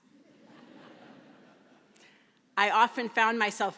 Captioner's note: laughter